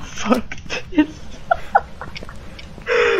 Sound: hysterical laughing

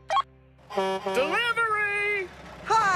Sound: horn Honking

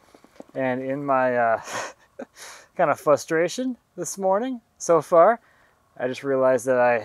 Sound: chuckles

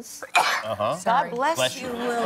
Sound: sneezing

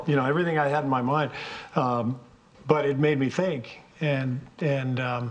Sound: none

